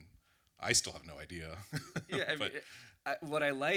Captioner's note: laughs